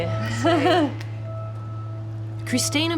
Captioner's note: laughs